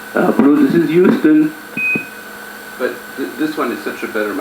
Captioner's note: low beep